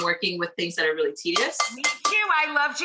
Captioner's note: sharply taps side of bowl